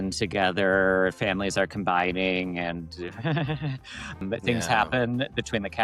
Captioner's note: laughs